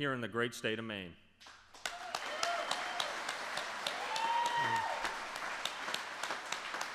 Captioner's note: applause